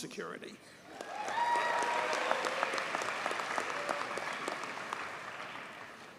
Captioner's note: audience cheers and applauds